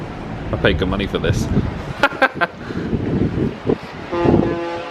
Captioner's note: chuckles; horns blast tunefully